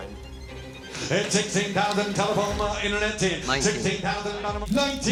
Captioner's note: rapid auctioneering